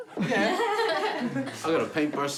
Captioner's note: all laughing